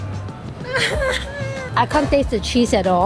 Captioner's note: laughs